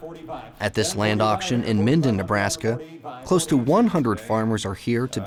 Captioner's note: auctioneering